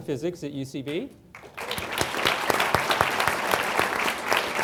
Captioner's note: applause